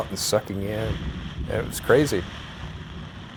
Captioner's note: thunder rumbling; rain splashing